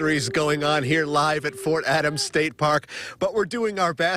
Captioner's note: air horn